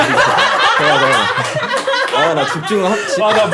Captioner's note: burst out laughing at the sound of popping candy